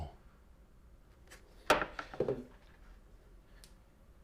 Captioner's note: silence